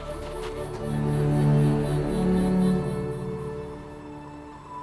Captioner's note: dramatic music; footsteps thudding; soft music